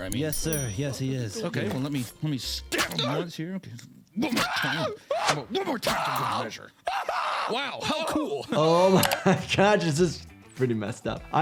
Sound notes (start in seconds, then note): 4.4 screaming; 4.4 screams